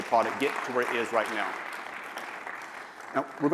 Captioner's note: applause